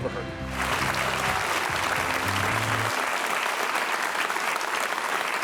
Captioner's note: audience applauding